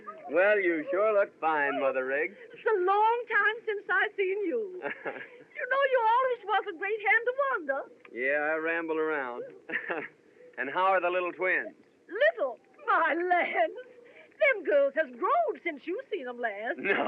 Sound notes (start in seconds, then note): 4.7 chuckles; 9.4 chuckles